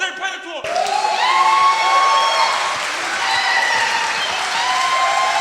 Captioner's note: audience cheers and claps